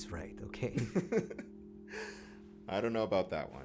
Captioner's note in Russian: смех